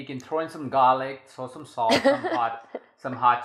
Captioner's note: laughs